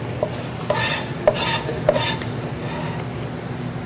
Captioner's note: scraping